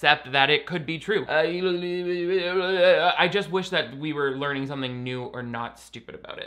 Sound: stammering

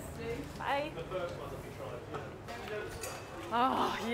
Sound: indistinct chattering

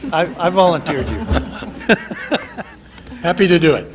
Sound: laughter

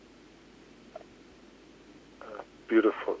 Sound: laughs

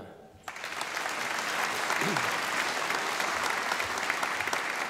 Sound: audience applauding

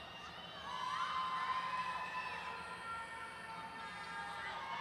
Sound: none

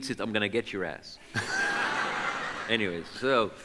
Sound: audience laughs

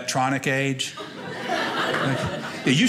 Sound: audience laughing

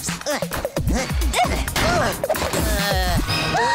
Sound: grunting; gasping

